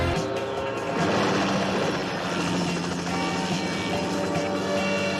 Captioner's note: car engine; helicopter noise